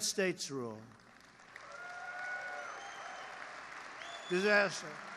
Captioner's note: applause